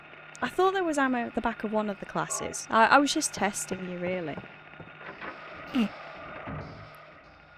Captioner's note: snickering